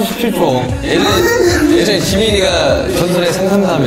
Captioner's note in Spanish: Ja ja ja